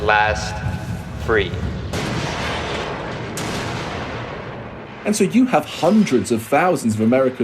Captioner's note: soundbite of explosions